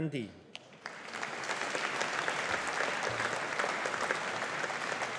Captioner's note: audience applauding